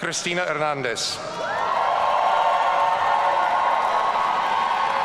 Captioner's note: audience cheering